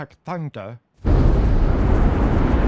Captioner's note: wind roars